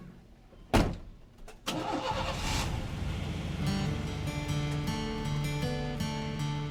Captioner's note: ignition starts